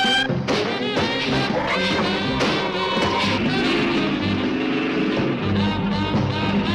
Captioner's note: suspenseful music; ground rumbling